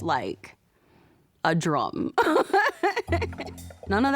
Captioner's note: laughs